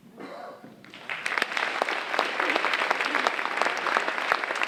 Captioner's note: audience applauding